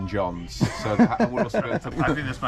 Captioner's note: laughing